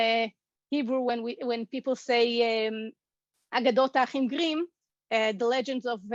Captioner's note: Hebrew